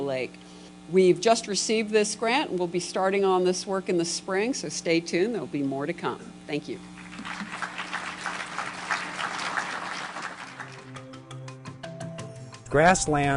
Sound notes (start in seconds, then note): 6.9 applause